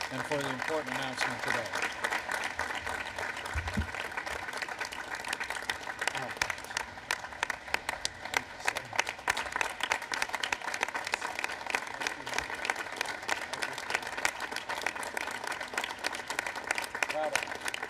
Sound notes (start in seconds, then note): 2.2 applause